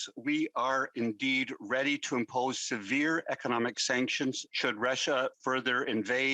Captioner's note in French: voix de l'interprète